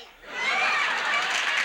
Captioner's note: audience applauds